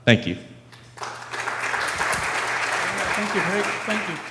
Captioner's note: audience applause